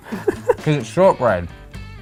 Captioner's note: chuckles